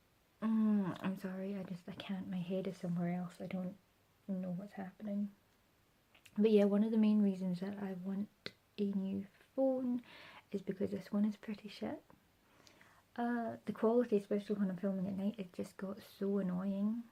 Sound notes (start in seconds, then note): none